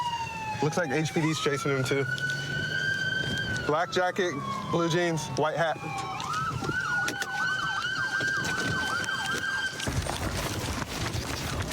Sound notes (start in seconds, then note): 5.9 siren wailing